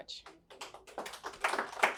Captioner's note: applause